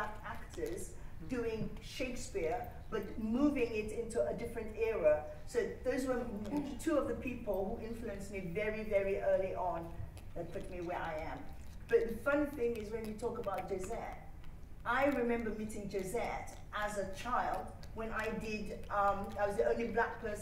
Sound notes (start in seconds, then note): none